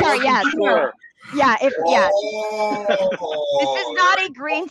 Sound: all laughing

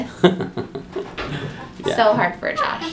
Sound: laughing

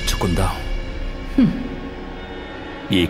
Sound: scoffs

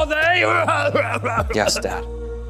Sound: coughing

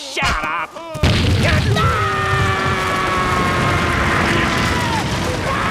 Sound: screaming

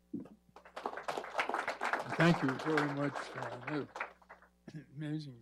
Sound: applause

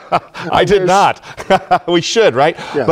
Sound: laugh

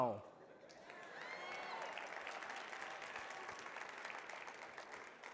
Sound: audience cheering

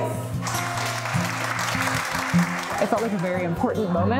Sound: crowd applauding

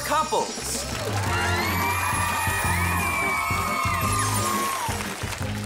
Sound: cheering

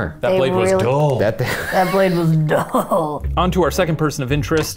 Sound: laughs

